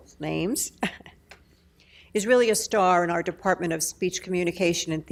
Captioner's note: chuckles